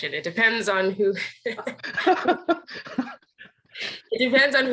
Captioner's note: laughing